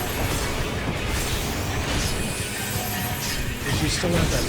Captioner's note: explosions